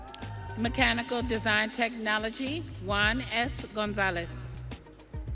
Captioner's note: audience cheering